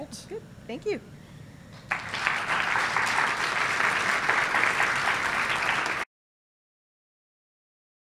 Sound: applause

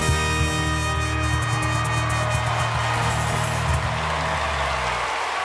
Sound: audience applauding

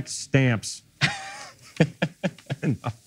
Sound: laughing

